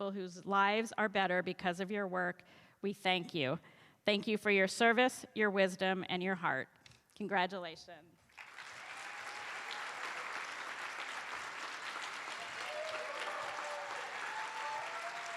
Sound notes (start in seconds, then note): 8.3 cheers and applause